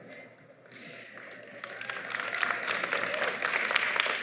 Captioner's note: applause